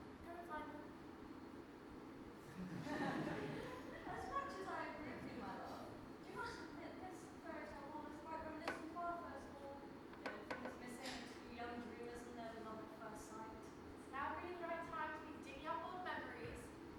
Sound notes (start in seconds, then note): 2.5 audience laughs